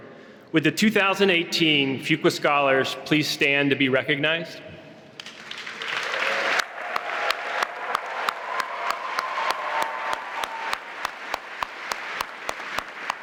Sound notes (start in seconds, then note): 5.2 applause